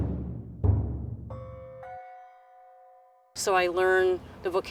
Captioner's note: tense drumming music; bells clanging